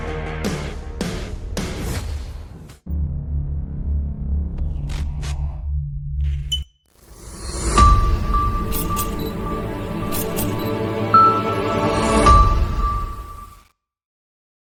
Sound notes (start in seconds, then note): 7.2 bright music; 7.4 camera beeps and clicks